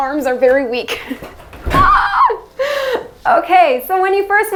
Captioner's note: laughs